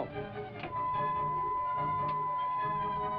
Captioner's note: beeping